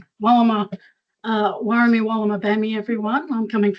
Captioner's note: foreign language